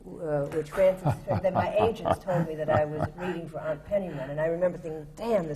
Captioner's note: laughter